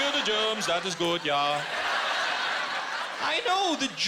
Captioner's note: laughter